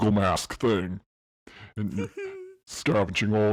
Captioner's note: giggles